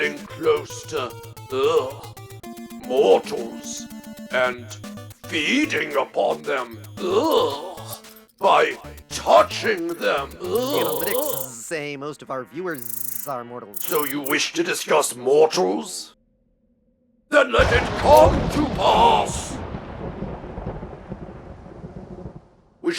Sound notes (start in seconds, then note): 9.2 repulsed murmurings; 20.6 thunder crashes